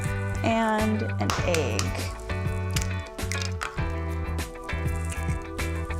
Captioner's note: eggshell cracking